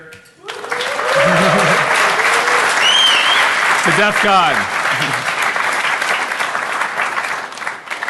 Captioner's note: applause